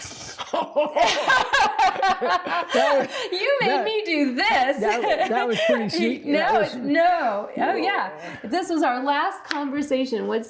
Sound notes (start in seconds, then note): 0.4 both laugh